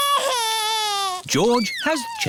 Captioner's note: crying